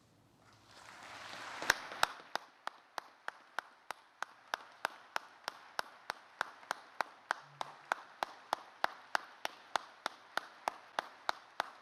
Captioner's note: applause